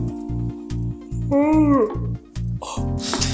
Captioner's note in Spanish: Bostezo